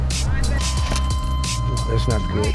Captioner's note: console beeping